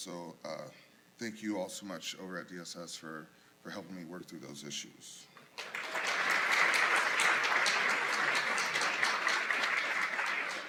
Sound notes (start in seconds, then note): 5.5 applause